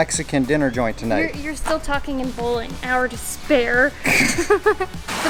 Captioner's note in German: Lachen